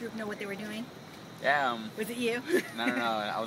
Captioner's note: chuckle